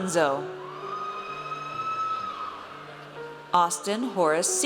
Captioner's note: audience cheers